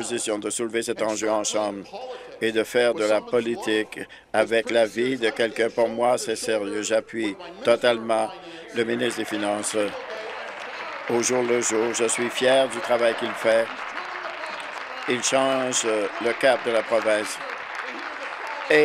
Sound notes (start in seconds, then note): 12.4 applause